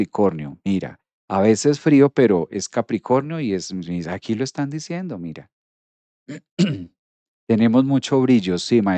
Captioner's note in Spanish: carraspeo